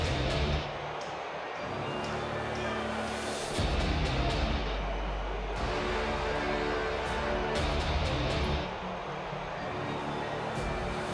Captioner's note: crowd cheering